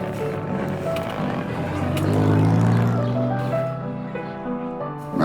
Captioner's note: engine revs